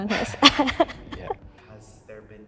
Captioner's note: laughs